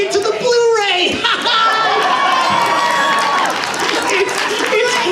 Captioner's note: laughs; audience cheers